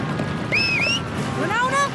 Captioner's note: whistles